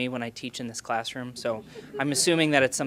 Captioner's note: laughing